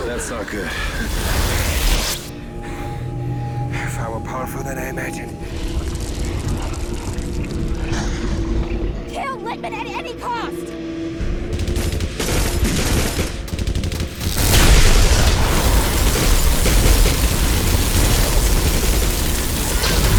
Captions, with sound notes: - Oh, that's not good. - (panting) Far more powerful than I imagined. - Kill Littman at any cost! (guns firing) (eye firing) (fire roaring)